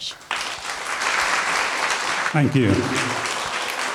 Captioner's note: applause